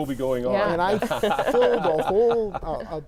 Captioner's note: laughing